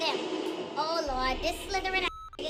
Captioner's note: beep